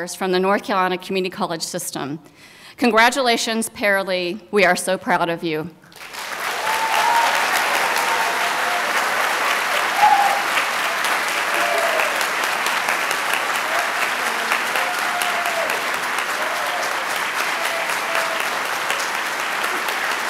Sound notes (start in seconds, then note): 6.3 applause